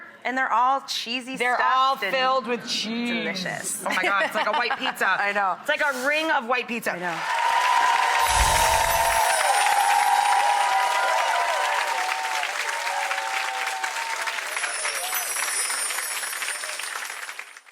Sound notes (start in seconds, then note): 7.8 audience applauding